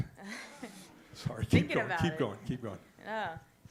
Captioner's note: audience laughs